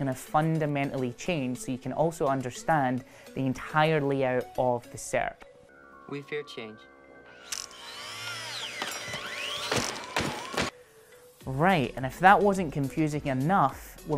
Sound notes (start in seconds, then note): 7.4 machine whirring; 8.5 hammer pounding